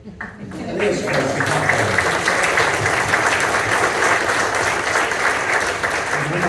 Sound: applause

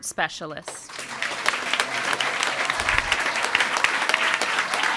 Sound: audience applauding

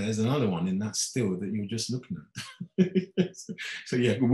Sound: laughing

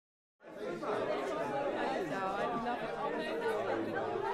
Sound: party sounds

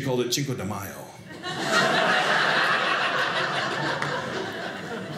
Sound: audience laughing

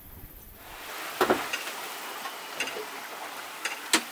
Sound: waves wash

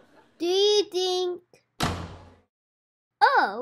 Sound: door slams

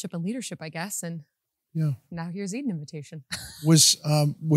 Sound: chuckles

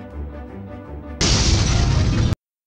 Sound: crash!

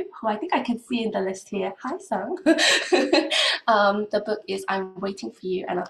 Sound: laugh

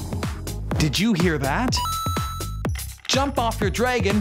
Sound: chime

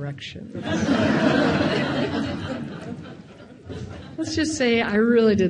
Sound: audience laughing

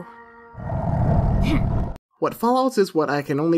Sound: monster snarls

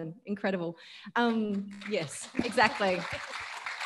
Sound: audience applauding

